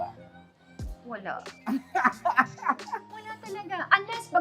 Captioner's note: laughs